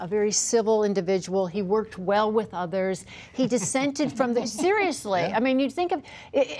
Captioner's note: laughter